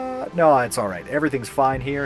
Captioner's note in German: normale, beruhigende Stimme